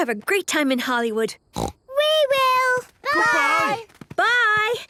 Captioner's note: snort